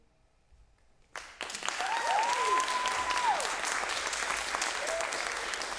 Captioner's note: applause